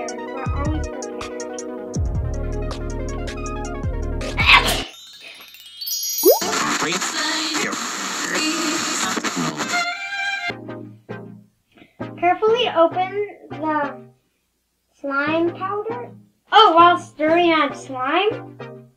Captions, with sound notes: We are always prepared. *sneeze* Dab! Carefully open the slime powder while stirring the slime.